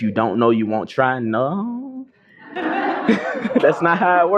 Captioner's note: laughter